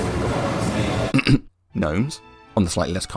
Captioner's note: cough